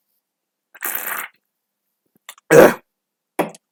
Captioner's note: sip